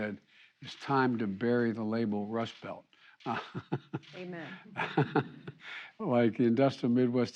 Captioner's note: laughs